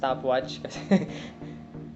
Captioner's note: laughs